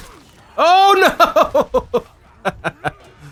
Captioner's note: laughs